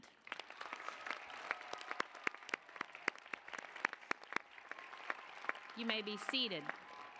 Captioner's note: applause